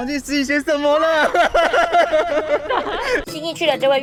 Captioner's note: laughs in forgetfulness